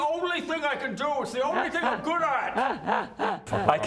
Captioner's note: diabolical laughter